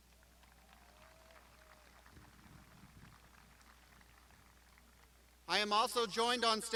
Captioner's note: crowd applauding